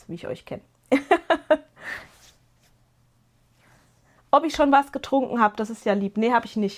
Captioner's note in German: gelächter